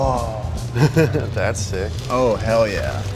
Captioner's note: chuckles